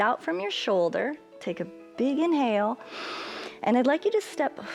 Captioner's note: inhales